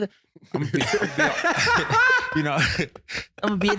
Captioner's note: laughing